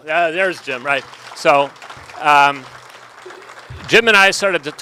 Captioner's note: audience applauding